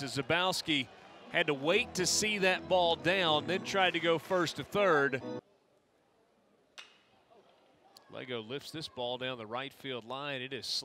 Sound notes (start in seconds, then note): 6.8 ball hitting bat